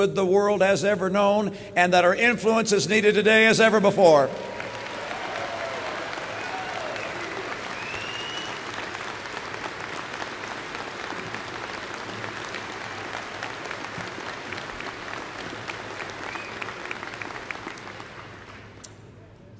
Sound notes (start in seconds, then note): 4.1 applause